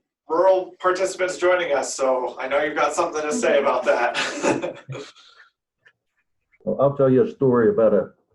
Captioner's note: laughter